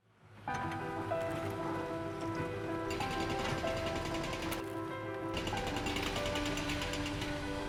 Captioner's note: gentle music; machines pounding